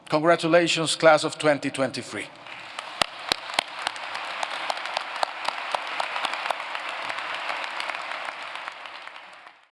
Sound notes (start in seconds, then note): 2.4 applause